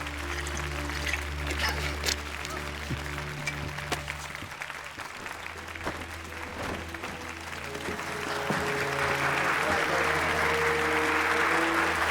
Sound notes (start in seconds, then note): 0.1 light melodic orchestral music; 6.9 audience applauding